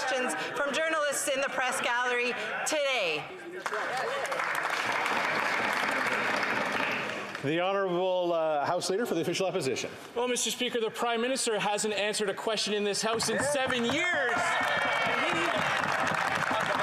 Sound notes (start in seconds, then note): 7.7 applause